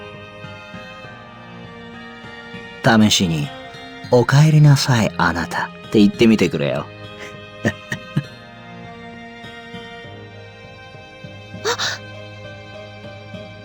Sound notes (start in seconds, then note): 7.6 chuckling